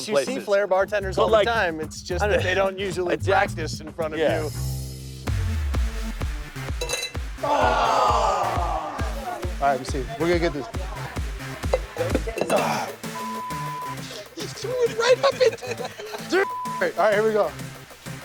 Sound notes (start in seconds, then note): 5.3 energetic music; 6.8 metal clangs; 13.1 beep; 16.4 beep